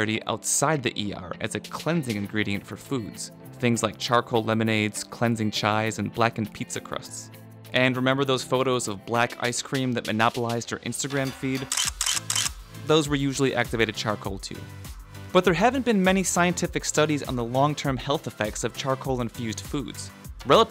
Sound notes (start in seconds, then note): 11.6 camera shutter clicking